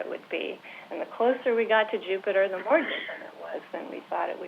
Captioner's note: interference